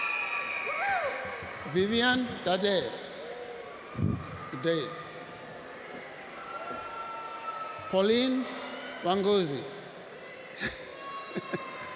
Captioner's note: cheering; laughs